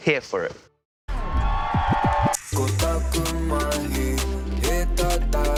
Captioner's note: cheering, record scratching